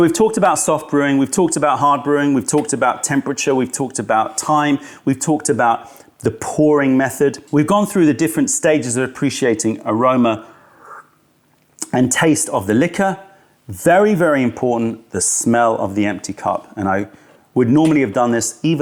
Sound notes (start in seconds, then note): 10.5 sips tea